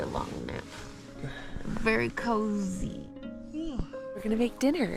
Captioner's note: yawns